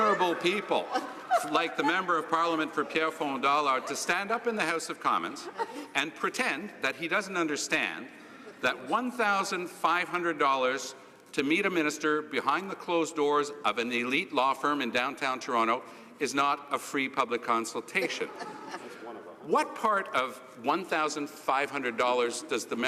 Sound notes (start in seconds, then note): 5.2 laughter